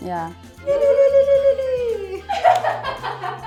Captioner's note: laugh